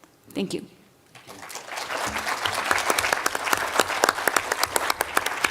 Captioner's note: applause